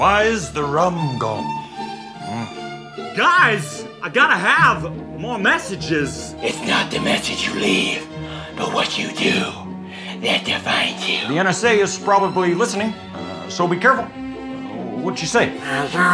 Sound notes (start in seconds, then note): 0.2 Jack Sparrow impression; 3.5 Christopher Walken impression; 11.5 Obama impression